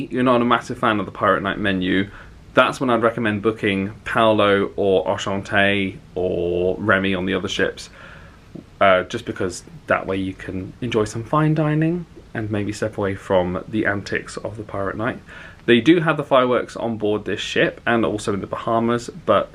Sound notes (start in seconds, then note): none